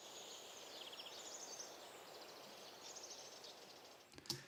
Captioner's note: birds Chirping